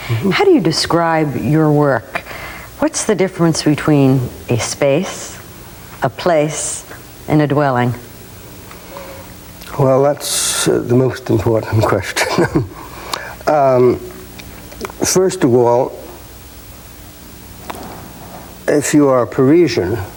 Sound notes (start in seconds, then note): 12.1 laughing